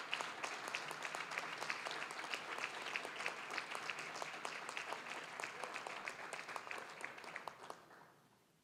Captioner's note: applause, cheering; applause